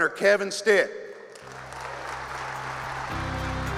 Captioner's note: applause